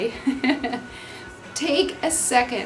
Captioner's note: laughing